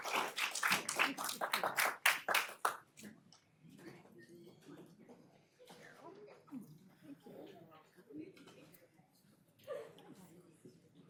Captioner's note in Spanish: aplausos